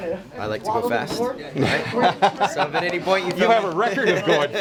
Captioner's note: laugh